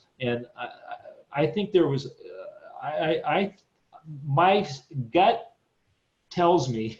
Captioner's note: chuckles